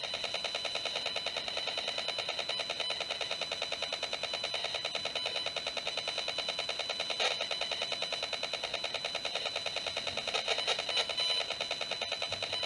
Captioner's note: sound from the Cemprotec